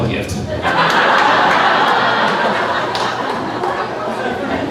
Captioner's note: crowd laughing